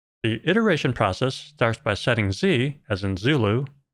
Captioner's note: none